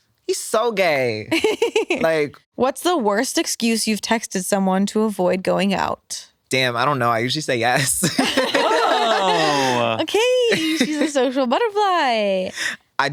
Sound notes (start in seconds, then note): 1.3 laughs; 8.0 laugh